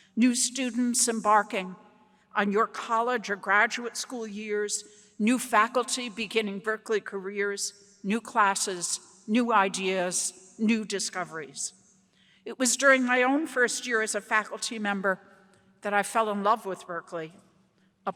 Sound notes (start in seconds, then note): none